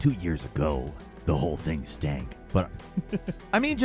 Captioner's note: chuckles